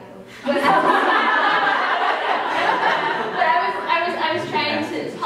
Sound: laughter

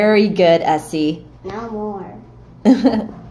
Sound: laughing

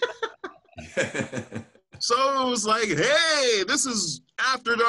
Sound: laughter

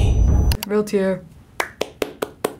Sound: computer click; claps

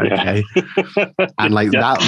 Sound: laughing

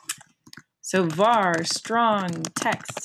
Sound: typing

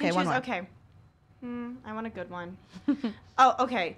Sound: hums

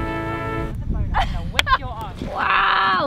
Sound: woman laughs loudly; woman claps

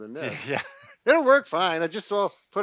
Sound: laughs

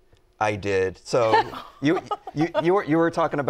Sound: laughs

